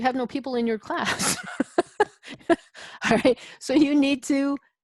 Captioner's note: laughs